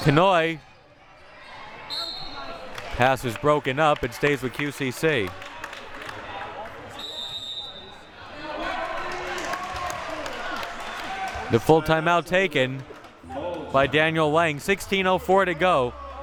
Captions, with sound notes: Kanhoye. (whistle blowing) Pass is broken up, it stays with QCC. (whistle blowing) The full timeout taken by Daniel Lang, 16:04 to go.